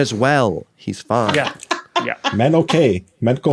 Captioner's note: cackles